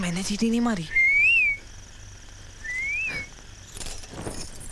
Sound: whistling

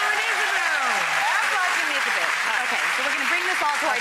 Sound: audience claps

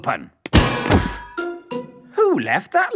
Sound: thuds

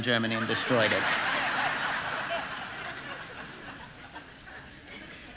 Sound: congregation laughing

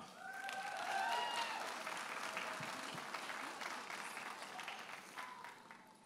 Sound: audience applauding and cheering

